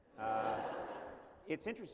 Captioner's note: laughter